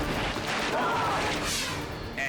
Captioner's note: screams